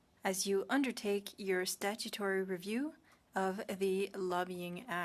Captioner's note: speaking French